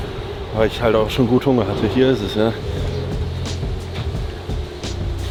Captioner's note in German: none